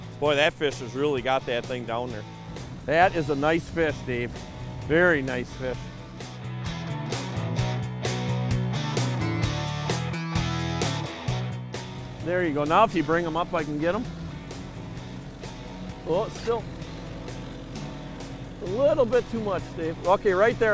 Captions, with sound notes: Boy that fish has really got that thing down there. That is a nice fish, Dave, very nice fish. There you go, now if you bring them up I can get 'em. (motor drowns out) A little bit too much, Dave.